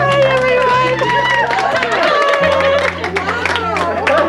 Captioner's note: all clapping; enchanting music